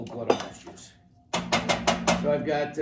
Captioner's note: banging